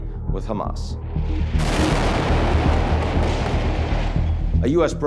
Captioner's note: tense music; explosion booming